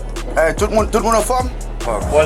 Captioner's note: speaking in Creole